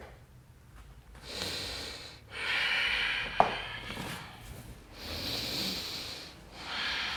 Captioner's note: deep breathing